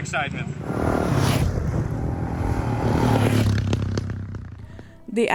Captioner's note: motorcycles roaring